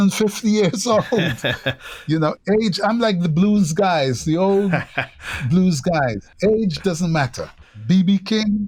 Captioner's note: laughter